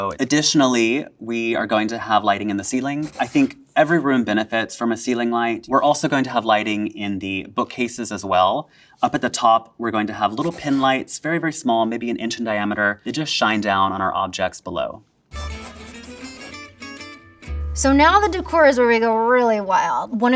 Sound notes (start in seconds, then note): 15.3 graphic scratching; 15.3 upbeat music